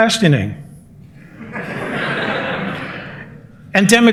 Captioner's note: laughter